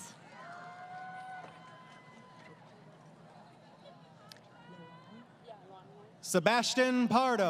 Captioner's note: crowd Cheering